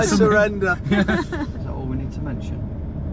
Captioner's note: laugh